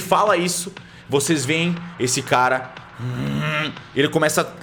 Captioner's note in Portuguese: grunido